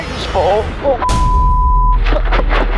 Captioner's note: beep; dramatic music